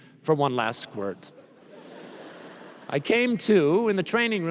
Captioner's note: laughter